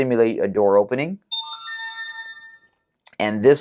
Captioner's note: chime